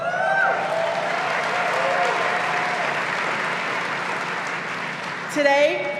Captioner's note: clapping